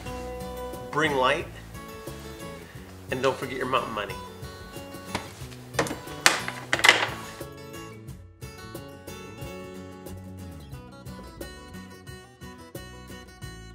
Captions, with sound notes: bring light and don't forget to bring your mountain money. (clacking) (cheerful music)